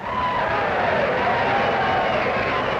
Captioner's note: laughter, applause